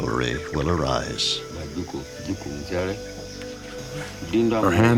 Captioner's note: man speaking native language